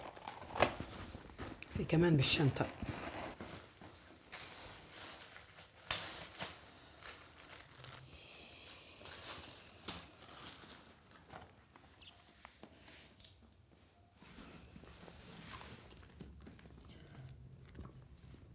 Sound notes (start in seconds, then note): 0.0 paper rustling; 1.8 speaking in foreign language; 4.6 plastic rustling